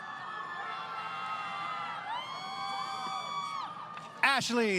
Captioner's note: crowd Cheering